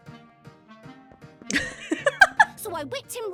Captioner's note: laughs